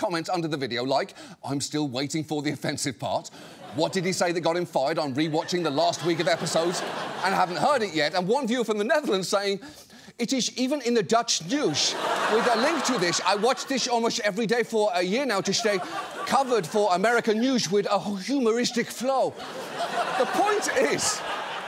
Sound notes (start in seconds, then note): 10.1 in dutch accent; 15.4 laughter